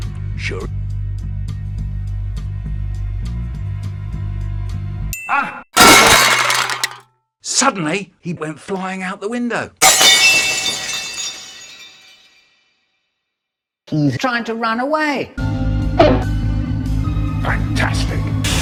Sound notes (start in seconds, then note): 5.2 ding; 5.8 crash